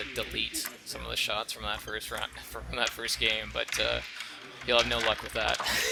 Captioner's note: laughs